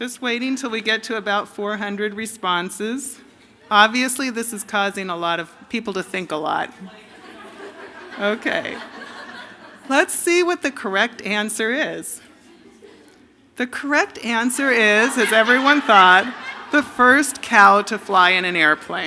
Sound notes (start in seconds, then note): 14.2 laughter